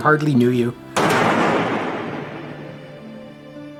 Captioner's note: loud thunk